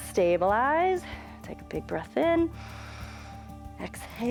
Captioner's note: inhales